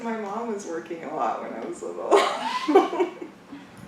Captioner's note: laughs